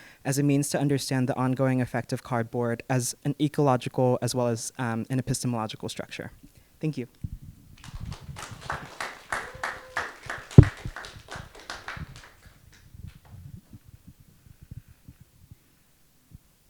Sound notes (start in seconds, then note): 7.8 audience clapping